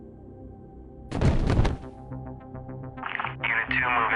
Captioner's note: human thuds